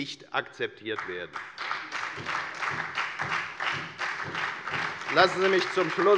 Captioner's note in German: Beifall bei der FDP und bei Abgeordneten der SPD